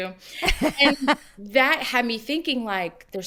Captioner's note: laughs